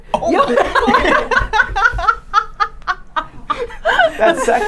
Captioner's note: laughing